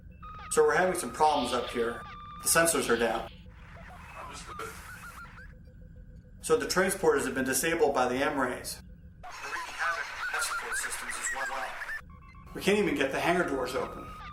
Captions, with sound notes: Sir, we're having some problems up here. The sensors are down. Understood. Sir, the transporters have been disabled by the M-rays. They're *crackle* wreaking havoc with the life support systems as well. *crackle* We can't even get the hangar doors open.